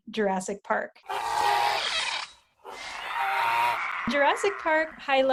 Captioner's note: roaring